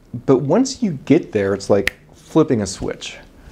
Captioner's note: snap of fingers